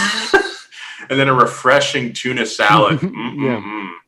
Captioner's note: laughs